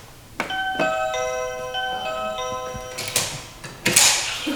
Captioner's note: ding-dong